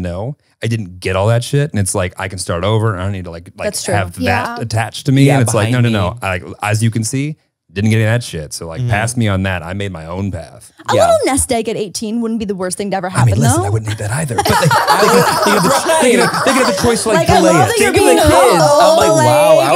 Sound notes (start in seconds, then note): 13.2 everyone laughs